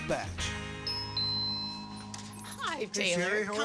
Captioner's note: door bell